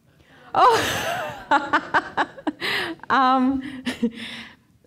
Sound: laughing loudly

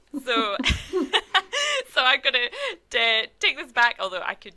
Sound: laughs

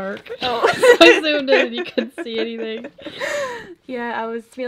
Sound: laughs

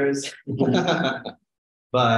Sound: laughter

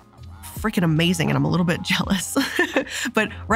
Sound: laughs

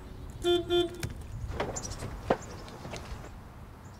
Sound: car horn

